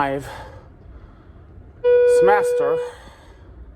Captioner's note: elevator dings